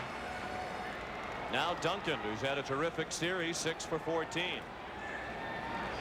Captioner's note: applause; cheering and Applause